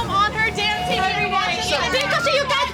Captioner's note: arguing